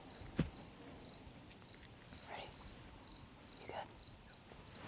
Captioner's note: whispering